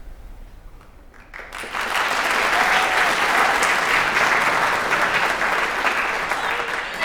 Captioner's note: applause